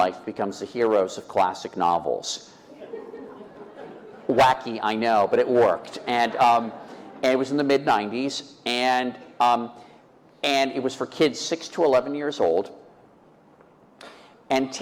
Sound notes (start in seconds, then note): 2.7 laughter